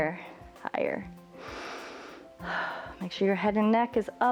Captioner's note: inhales and exhales